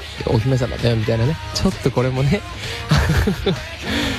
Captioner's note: laughs